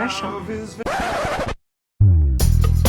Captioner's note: record scratch